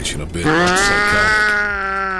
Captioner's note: badly audio mixed cat sound